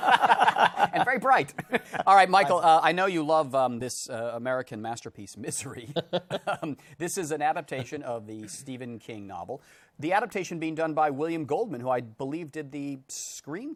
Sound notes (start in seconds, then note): 5.8 both chuckle